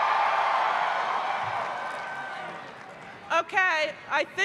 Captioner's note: cheering